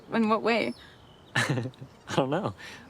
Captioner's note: Anthony laughs